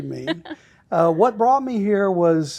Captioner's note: laughing